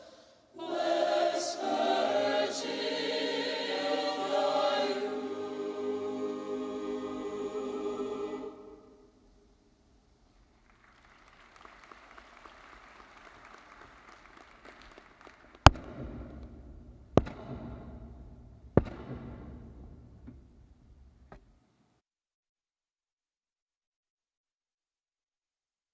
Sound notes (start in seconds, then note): 10.4 audience clapping; 15.7 torch thudding